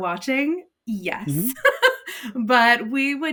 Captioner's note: laughs